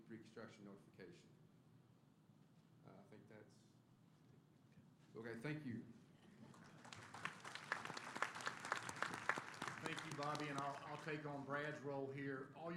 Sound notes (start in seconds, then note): 6.4 applause